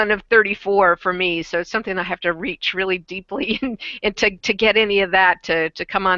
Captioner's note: giggles